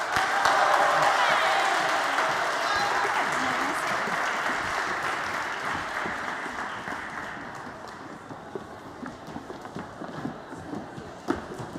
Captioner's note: ปรบมือ